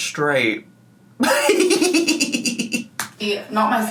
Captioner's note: laughs